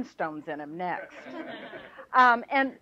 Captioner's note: laughter